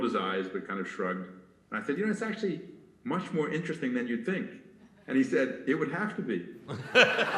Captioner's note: laughter